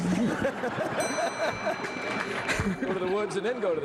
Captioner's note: laughter